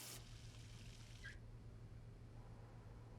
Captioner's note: water stops